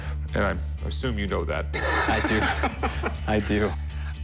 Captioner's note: laughs